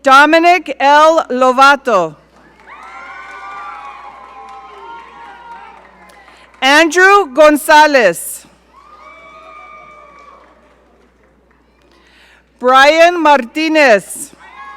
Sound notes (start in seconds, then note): 2.5 audience cheering; 8.7 audience cheering